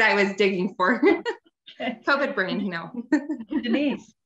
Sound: laughs

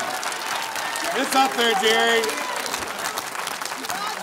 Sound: cheering

